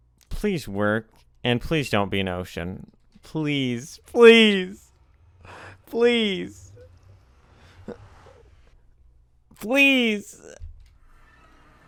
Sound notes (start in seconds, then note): 5.4 inhale